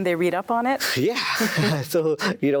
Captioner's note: laughs